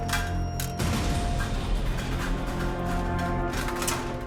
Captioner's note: ominous music continues; armor clanking